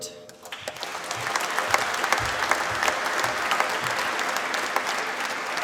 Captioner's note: applause